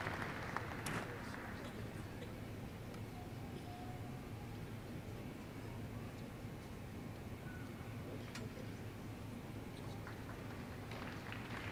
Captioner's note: applause